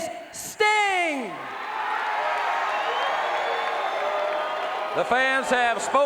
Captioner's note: crowd cheering